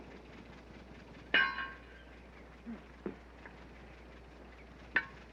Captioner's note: clanging